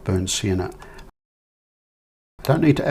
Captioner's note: silence